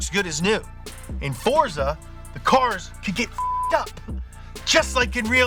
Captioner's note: beep